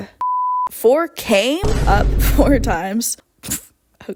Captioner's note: boom; laugh